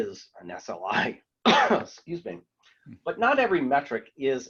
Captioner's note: coughs